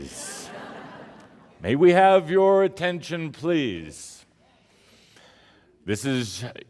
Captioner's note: laughter